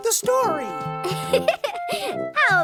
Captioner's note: chuckle